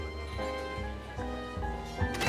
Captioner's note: soft chatter